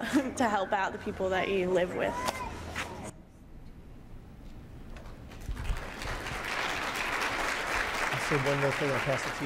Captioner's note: video ends, applause